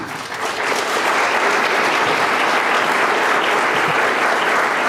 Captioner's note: audience applauding